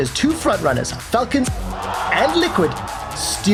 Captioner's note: crowd cheering